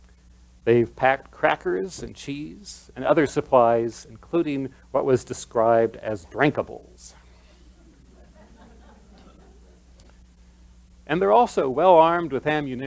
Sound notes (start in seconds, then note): 7.4 laughter